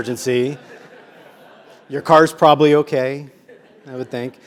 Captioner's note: laugh